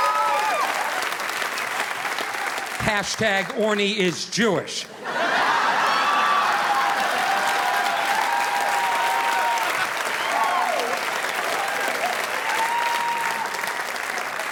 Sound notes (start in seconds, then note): 4.9 audience laughing; 5.0 audience applauding